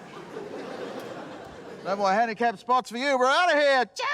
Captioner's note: laughter